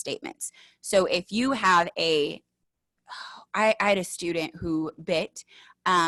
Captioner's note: sighs